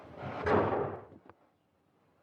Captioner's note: door slam